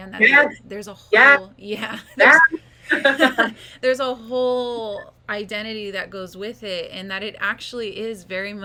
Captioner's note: laugh